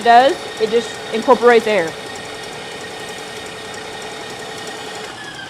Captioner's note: mixer whirring